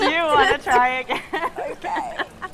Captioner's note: laughs